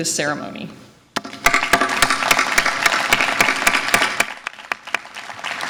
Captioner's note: audience applause